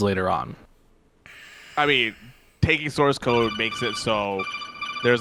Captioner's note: alarm ringing